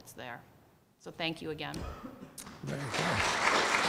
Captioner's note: clapping